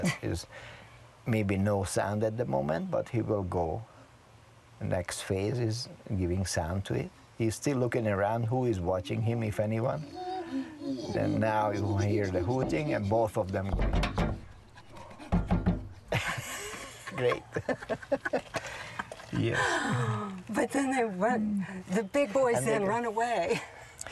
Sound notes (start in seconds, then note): 13.6 chimpanzee hoots and bangs on glass; 17.7 laughs